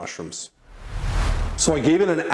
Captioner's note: camera whooshes